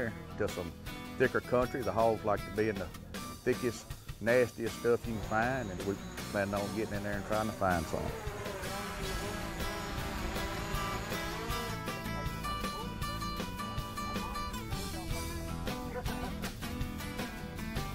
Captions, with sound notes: just a thicker country. The hogs like to be in the thickest, nastiest stuff you can find. And we plan on gettin' in there and tryin' to find some. (drone buzzing) (upbeat country music)